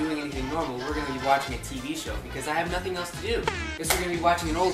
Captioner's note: sadness noises